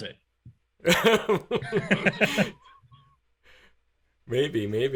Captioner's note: laughing